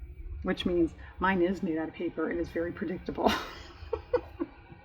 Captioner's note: laughs